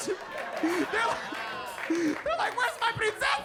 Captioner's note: audience laughing